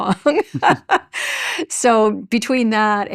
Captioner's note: chuckles